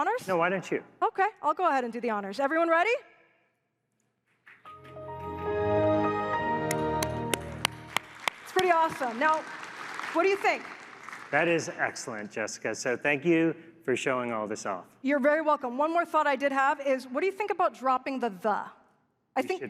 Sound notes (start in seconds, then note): 6.6 applause